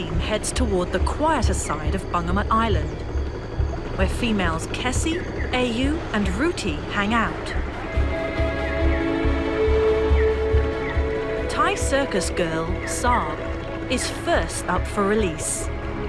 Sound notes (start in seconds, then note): 8.0 dramatic music; 8.0 water rustling